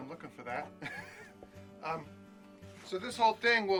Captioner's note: laughing